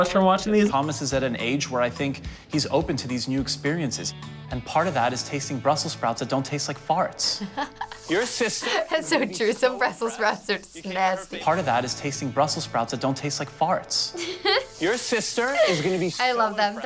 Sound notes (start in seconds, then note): 7.2 chuckles; 14.1 laughs